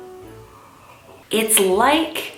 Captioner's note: sipping